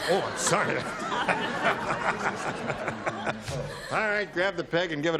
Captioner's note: laughter